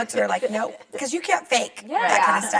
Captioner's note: laughs